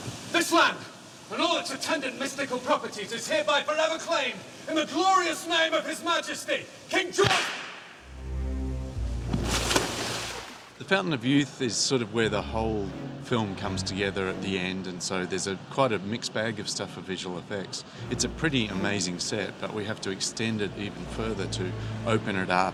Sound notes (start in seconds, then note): 7.2 gunshot